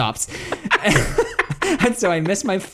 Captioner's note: both laugh